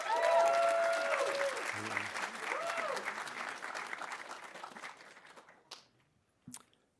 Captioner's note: audience cheering; audience applauding